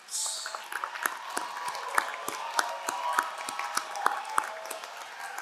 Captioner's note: crowd cheering and applauding